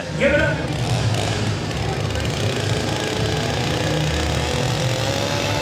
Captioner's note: chainsaw engine revs